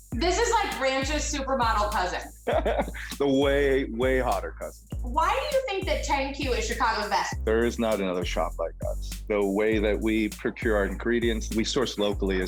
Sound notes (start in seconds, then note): 2.4 laughs